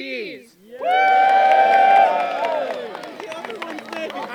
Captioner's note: cheering